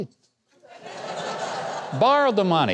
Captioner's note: crowd laughing